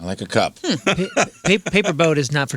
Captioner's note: laughing